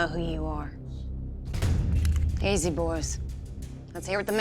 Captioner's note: guns cock